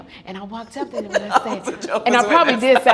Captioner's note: laughing